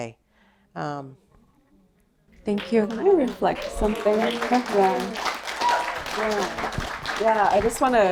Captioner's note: applause